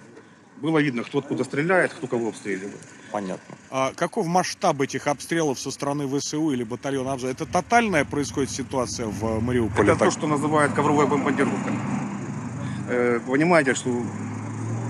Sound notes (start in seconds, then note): 6.0 Ukrainian